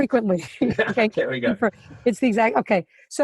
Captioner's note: both laughing